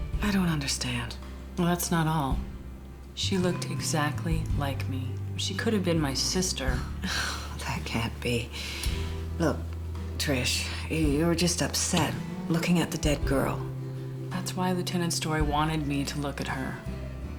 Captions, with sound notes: - I don't understand. - Well that's not all. She looked exactly like me. She could've been my sister. (sighing) - That can't be. Look, Trish, you're just upset. Looking at the dead girl. - That's why Lieutenant Story wanted me to look at her.